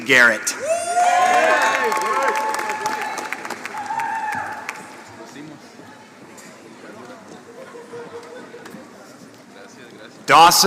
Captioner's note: applause